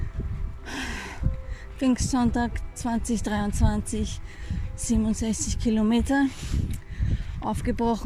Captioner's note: exhale